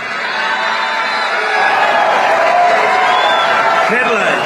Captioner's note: applause